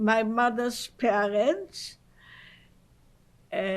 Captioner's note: pauses for 3 seconds